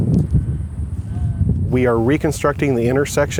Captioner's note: voiceover